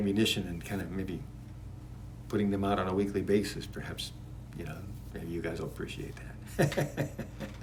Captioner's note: laughs